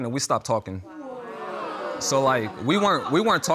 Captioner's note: audience exclaiming